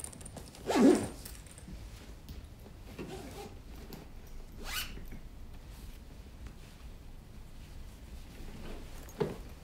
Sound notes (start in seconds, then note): 4.6 zipper zips